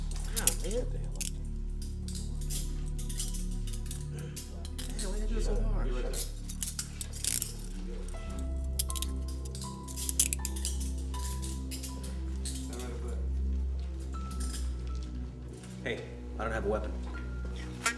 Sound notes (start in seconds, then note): 6.9 ominous music; 8.3 handcuffs clicking